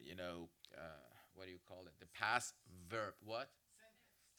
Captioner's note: none